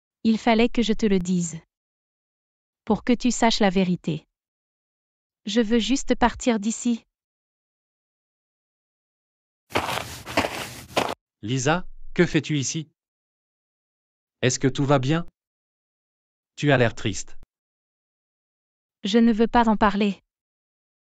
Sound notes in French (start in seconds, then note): 9.7 FX - Footsteps - On Multiple Dirt - Walk